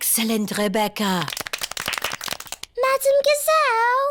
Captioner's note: all clap